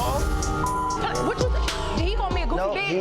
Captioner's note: beep